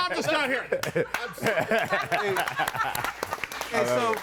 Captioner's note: attendees laughing and applauding